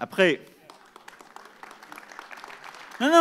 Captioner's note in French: Applaudissements